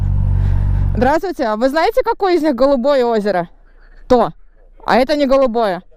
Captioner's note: in Russian